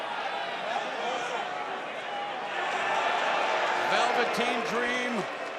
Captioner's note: crowd cheering